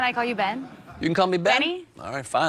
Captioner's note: laughs